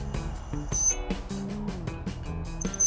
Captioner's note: strong grinding-squeak at every grinding movement